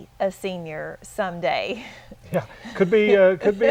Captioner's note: chuckle